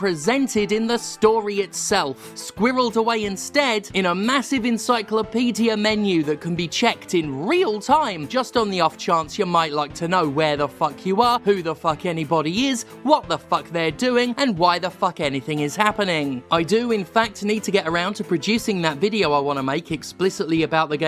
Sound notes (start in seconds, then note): none